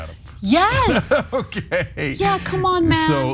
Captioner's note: laugh